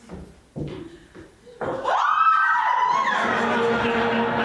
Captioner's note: natasha and katherine scream in delight